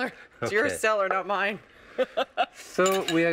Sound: laughs

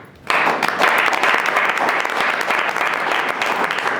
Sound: group applauding

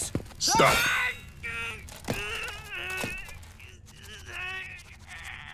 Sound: grunting

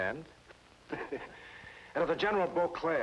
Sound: man laughing

